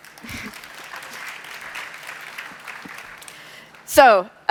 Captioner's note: applause